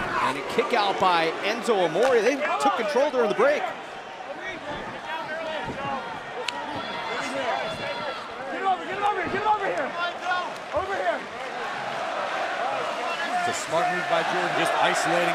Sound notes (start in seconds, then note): 13.1 fans chanting